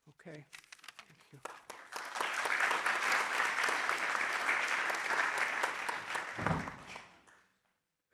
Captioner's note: applause